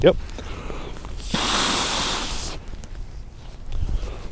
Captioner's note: breath